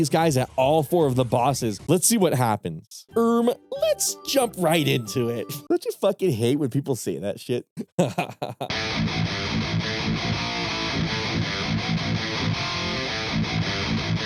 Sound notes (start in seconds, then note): 7.8 laughs; 8.7 rock music